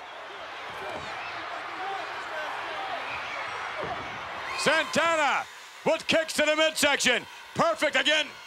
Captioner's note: applause